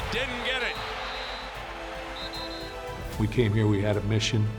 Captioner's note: whistle screeching